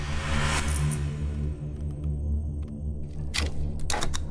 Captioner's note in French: bruits de molette de souris